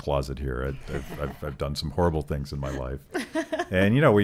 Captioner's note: laughing